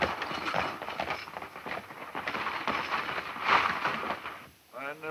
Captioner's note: pattering hooves